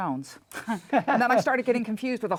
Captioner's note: laughs